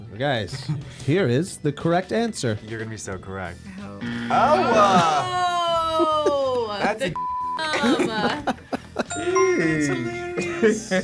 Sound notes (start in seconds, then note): 7.1 beep; 10.8 both laugh